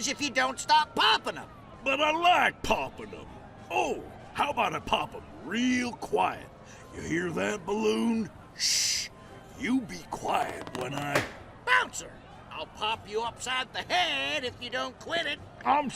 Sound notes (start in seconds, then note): 10.5 balloon pops